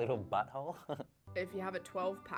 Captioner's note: laughing